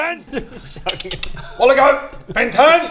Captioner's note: click click